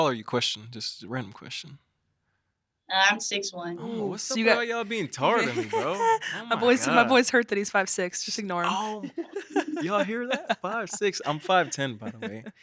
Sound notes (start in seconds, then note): 4.1 chuckles; 8.7 chuckles